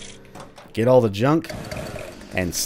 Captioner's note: Jackie revs to life